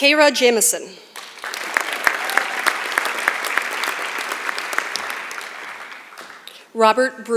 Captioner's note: applause